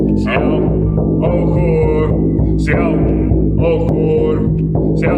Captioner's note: chanting